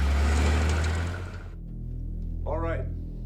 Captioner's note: vehicle rumbling